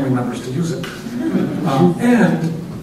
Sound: laughter

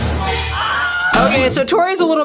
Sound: man screams

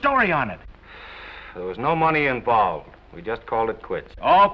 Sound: exhales

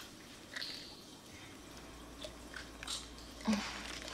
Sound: pills rattle

